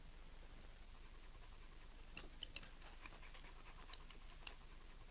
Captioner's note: dog panting